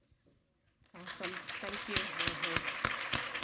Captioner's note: audience applaud